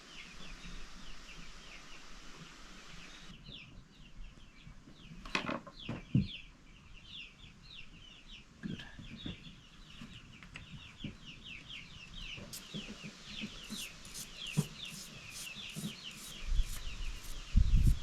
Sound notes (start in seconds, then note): 7.4 birds chirping